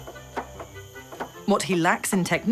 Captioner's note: coconut hitting wood